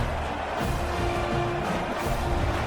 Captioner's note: crowd Noises